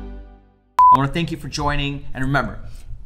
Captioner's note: beeping